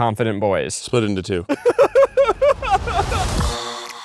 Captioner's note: laughing; upbeat electronic music